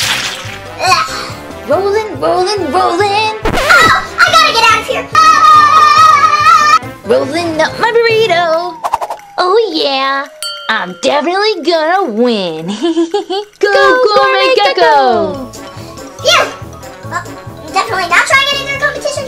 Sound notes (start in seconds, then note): 5.7 assistant yells